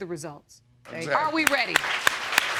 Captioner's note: audience applauding